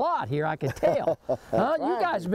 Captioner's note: laughing